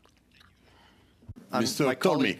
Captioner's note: speaking French